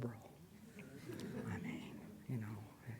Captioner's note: audience chuckles